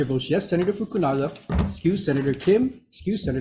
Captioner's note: speaking Hawaiian